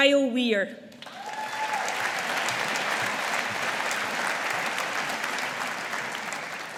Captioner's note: audience applauding